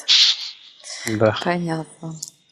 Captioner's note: laughing